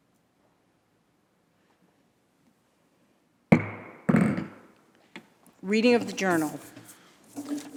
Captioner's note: moment of silence